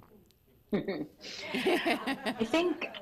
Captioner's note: laughter